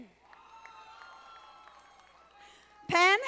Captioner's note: audience applauding